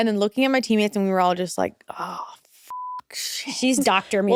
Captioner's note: beep